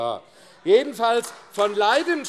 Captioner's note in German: Beifall AfD